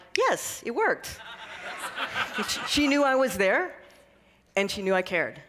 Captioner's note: laughter